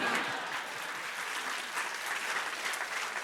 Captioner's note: laughter, applause